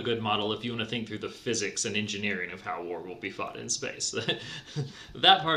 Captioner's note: laughs